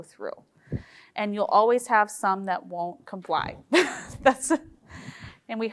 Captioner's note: chuckling